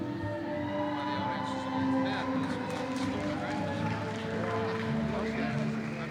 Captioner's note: audience cheering; people murmuring